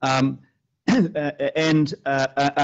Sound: clears throat

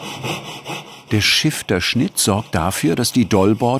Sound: saw noise

